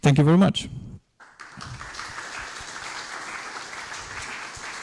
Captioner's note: applause